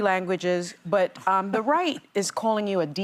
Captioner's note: laughter